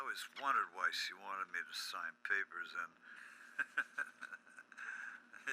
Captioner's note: laughs